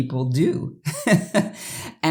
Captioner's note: laughter